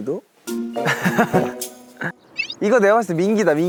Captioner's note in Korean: 꼴깍